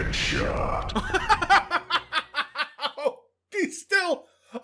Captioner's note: bursts out laughing